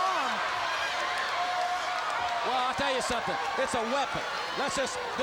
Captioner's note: crowd cheering